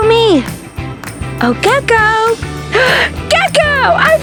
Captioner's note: gasps